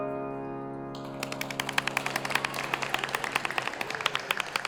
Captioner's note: audience applauds